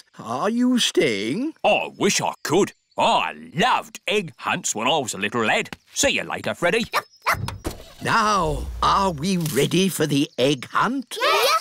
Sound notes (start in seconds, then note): 7.2 barks; 7.4 car engine starts